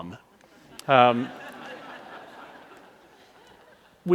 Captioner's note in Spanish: Risas